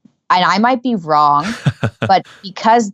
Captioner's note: laughing